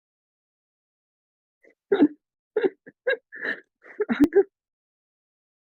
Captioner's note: laughs